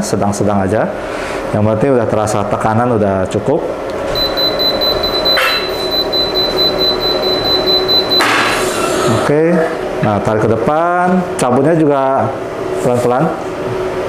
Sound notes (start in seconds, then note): 4.0 beeping sound; 8.3 press machine sound